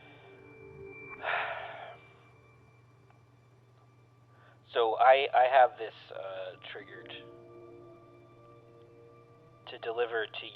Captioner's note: sighs